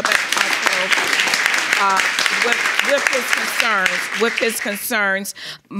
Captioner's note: audience applauding